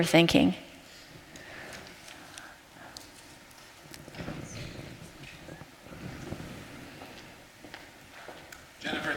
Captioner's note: silence